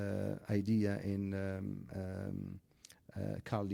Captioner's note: speaks in foreign language